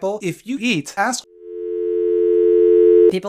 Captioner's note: increasingly loud dial tone